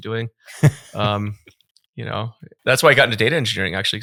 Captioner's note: laughing